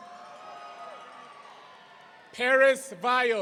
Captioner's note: audience cheering